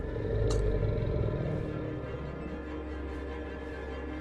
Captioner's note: low growling